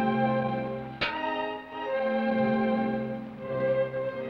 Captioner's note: pan clangs